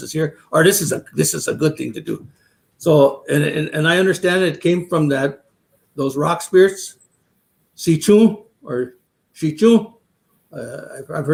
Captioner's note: speaking Dakota